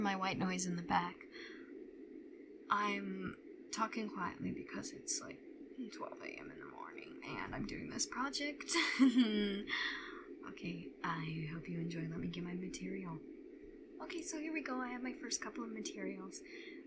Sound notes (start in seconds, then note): 8.8 awkward laugh